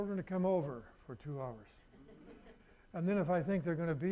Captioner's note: audience laughing